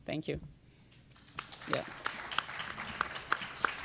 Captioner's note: applause